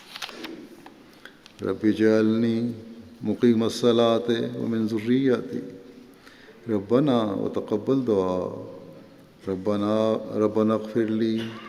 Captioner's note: Arabic